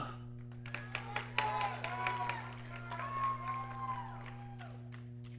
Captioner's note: audience cheering